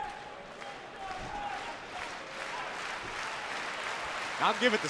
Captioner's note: clapping